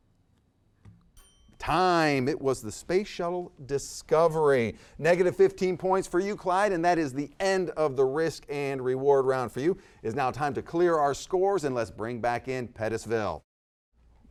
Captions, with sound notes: (timer chimes) - Time! It was the Space Shuttle Discovery. Negative 15 points for you, Clyde, and that is the end of the "Risk and Reward" round for you. Is now time to clear our scores and let's bring back in Pettisville.